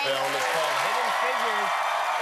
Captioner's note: cheers and applause